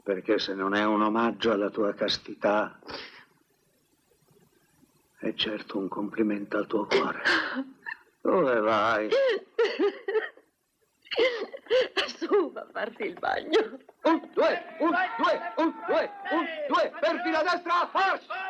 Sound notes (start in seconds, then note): 9.2 laughing